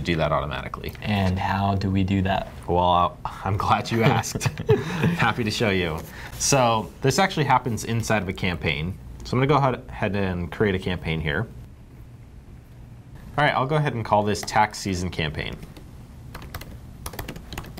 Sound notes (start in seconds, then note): 3.9 laughing